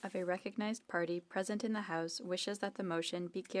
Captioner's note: speaking FRENCH